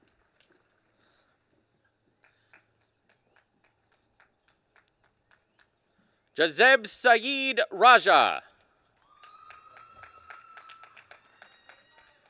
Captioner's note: applause